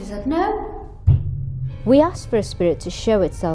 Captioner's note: thudding sound